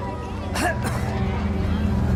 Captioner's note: coughs